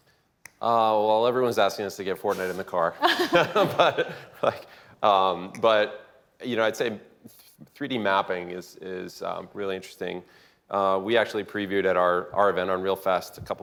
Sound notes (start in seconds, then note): 2.9 chuckles; 2.9 laughter